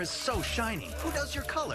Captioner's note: scoff